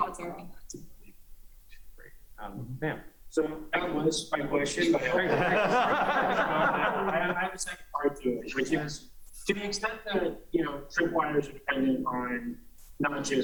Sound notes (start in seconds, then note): 8.0 laughter